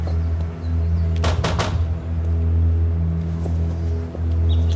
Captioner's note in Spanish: Toques en la puerta